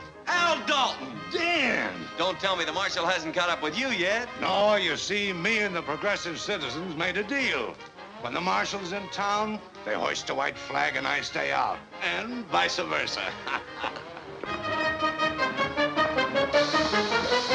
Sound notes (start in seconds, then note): 13.1 chuckles; 14.3 playful music